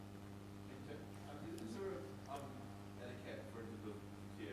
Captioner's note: man speaks softly